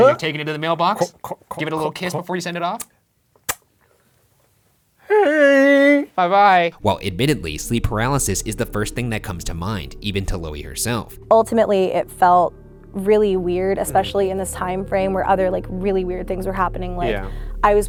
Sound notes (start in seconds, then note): 3.4 lips squeaking